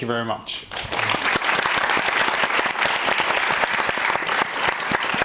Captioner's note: audience applauding